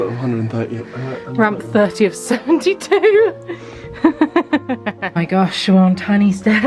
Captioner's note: laughs